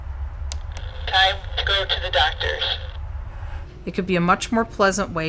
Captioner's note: alarm voice